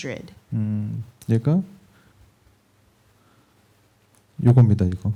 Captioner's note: speaking korean